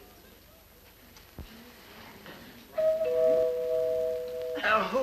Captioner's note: doorbell